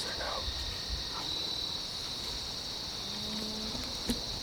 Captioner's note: whispering